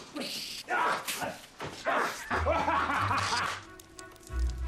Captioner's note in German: Beide lachen